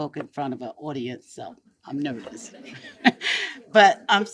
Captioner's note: chuckles